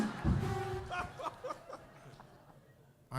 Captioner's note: applause; laughter